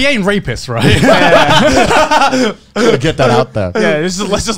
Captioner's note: both laugh